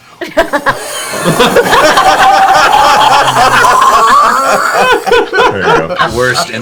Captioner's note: laughter